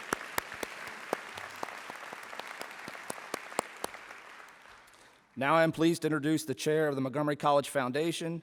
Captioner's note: applause